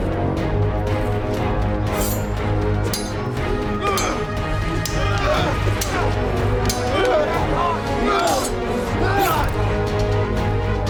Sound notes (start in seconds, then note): 0.4 dramatic music; 2.8 swords clanging; 7.8 dramatic music